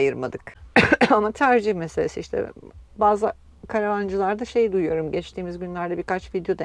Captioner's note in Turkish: boğazını temizler